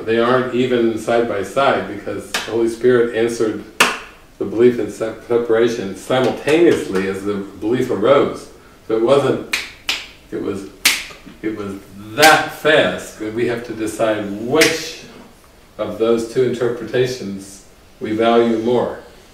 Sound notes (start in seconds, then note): 3.8 clap; 9.4 one finger snap; 9.5 snapping fingers; 14.6 one finger snap